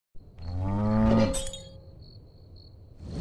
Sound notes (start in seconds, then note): 0.4 cow mooing; 1.3 glass smashing